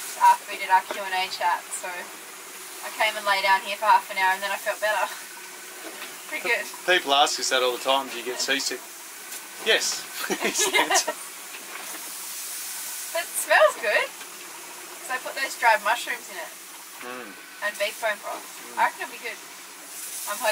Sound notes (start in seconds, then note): 10.1 laughing